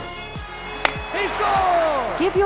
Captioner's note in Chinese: 硄!